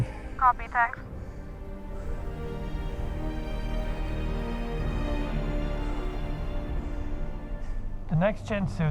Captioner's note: breathing heavily